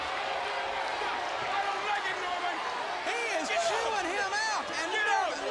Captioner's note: crowd chatter; crowd cheering